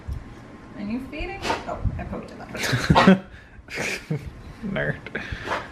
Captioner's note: laughs